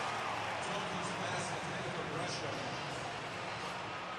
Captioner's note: pa announcement